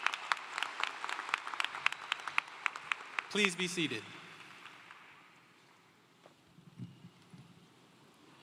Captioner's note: applause